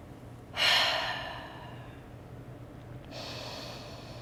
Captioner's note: breathing